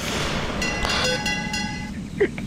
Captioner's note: ding Ding Ding